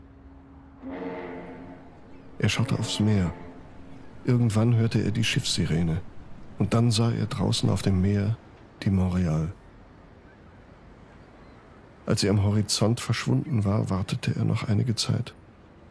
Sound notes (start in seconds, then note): 0.1 ship horn blaring